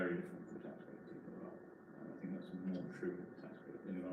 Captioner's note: mutters